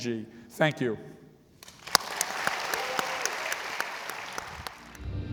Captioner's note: audience applauding